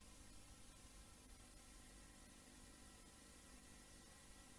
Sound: VHS static

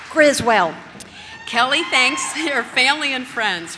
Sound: audience cheers

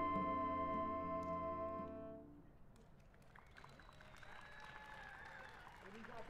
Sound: song fades, cheers and applause

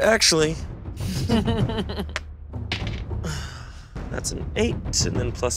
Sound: chuckling

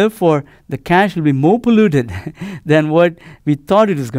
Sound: laugh

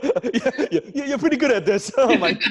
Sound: laughing

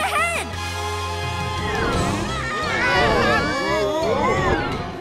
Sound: screaming

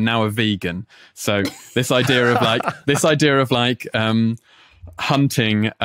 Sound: laughs

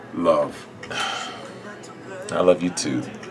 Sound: sighs

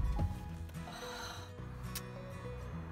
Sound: sighs

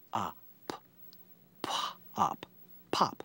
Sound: sounding out word

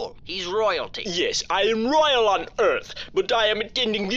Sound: inscrutable accent

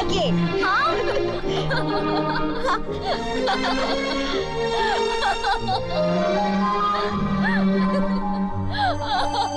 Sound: laughs

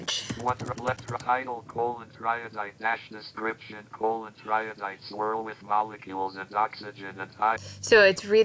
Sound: text-to-speech reader reads image with changes

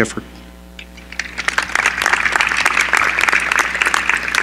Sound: applause

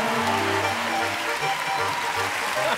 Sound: cheers and applause

